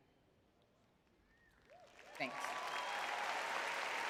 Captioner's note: audience cheering